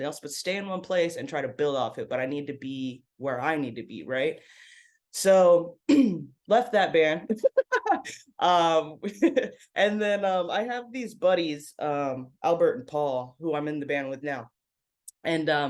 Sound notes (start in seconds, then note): 7.4 laughs